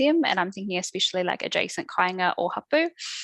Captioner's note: non-english speech